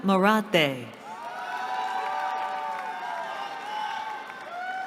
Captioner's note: cheering